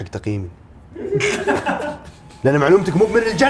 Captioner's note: laughing